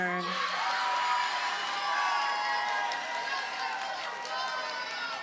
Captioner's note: audience cheers and applauds